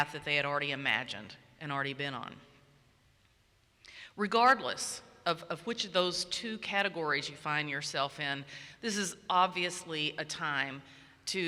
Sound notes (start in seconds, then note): none